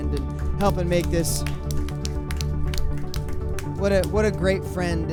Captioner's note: applause